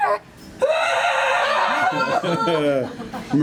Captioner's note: screams